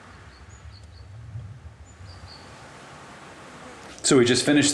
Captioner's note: crickets chirping